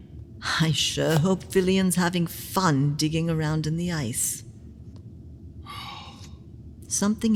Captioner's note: Sarcastic; Chartrulean sighs